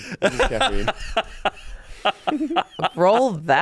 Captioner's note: laughing